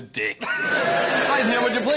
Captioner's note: cheer